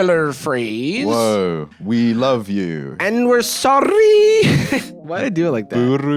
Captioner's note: laughs